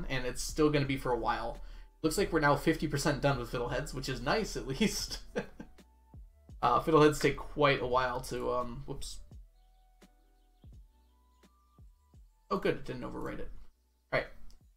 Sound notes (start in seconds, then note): 5.3 laughs